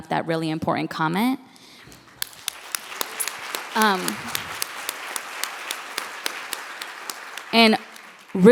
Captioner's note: applause